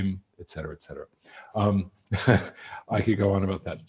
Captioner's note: laughs